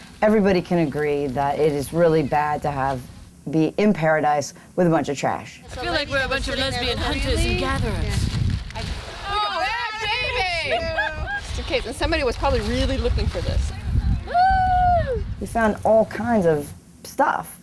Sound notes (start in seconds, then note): 10.4 laughter